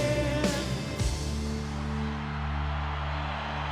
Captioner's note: cheering